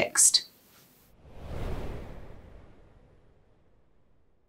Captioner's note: wind blowing